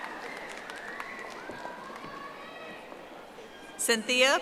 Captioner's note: audience applauding